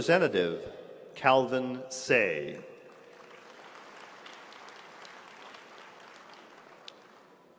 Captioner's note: applause